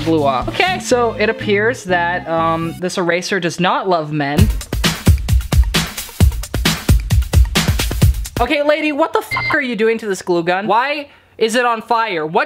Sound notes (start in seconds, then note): 4.3 upbeat drums; 9.3 beep